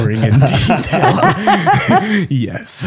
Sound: laughing

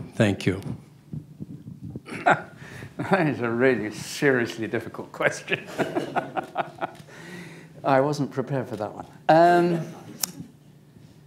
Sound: laughs

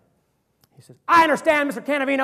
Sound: as Bo, shouting

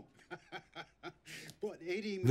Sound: laughing

